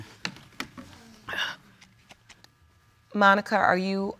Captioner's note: exhales